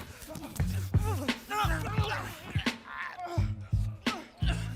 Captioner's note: group grunting